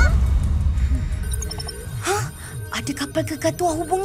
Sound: breathes nervously

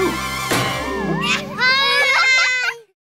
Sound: laughing

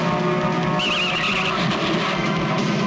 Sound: tires squealing and car rammed

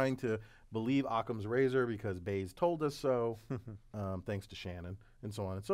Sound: laugh

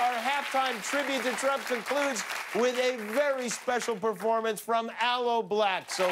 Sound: cheers and applause

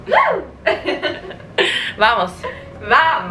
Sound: laughter

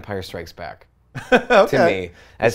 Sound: laughs

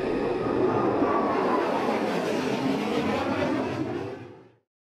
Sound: jets fly over

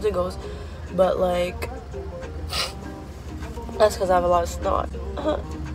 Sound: sniff

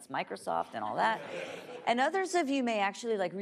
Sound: laughing

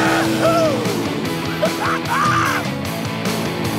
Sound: laughing

